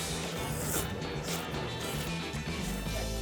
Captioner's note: slurping